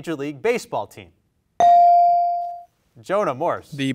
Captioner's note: bell rings